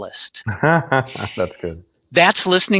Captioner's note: laughs